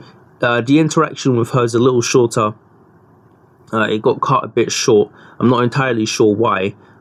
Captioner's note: none